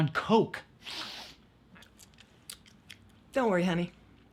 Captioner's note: Alex sniffing